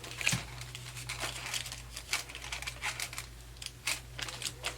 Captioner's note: paper rustling